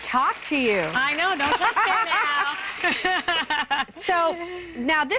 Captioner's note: laughs